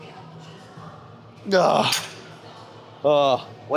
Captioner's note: grunts